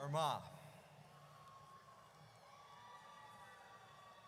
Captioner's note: audience cheers